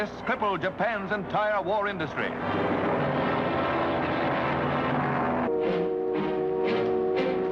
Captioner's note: plane engine roaring; dramatic music